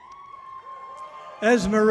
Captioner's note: audience cheering loudly